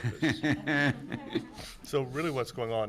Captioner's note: laughing